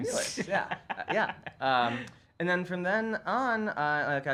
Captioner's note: laughs